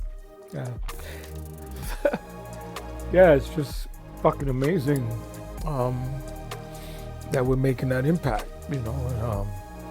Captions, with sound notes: Yeah. (laughs) Yeah, it's just fuckin' amazing that we're makin' that impact